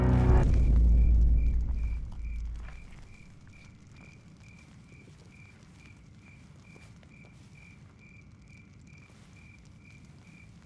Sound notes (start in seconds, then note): 4.7 crickets Chirping